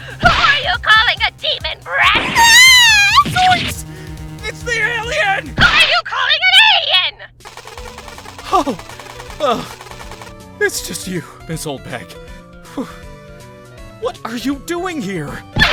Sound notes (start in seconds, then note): 7.4 “Ray gun” firing!